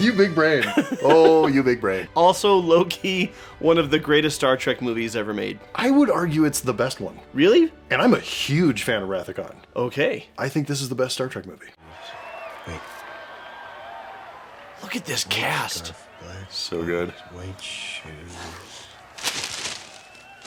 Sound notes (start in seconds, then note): 12.9 crowd cheering in the distance